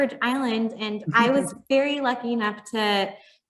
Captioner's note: chuckling